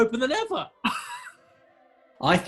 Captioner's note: sniggering